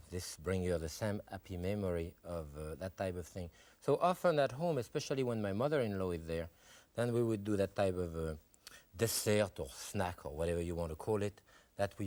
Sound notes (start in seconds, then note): 8.7 foreign language